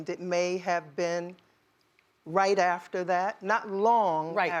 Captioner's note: none